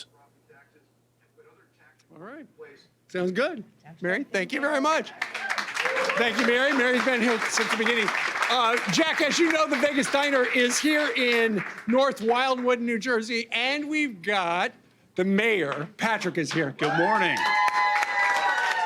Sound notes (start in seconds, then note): 8.8 applause